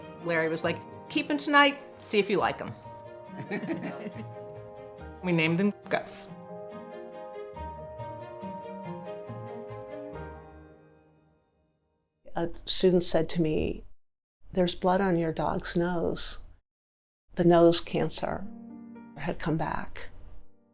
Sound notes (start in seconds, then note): 3.4 laughing; 6.7 calm music